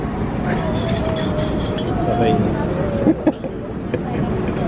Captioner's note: laughs